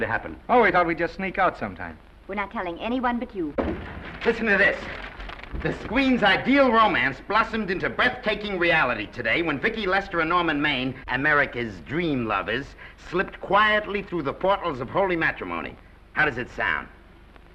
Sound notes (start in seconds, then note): 3.5 doors burst open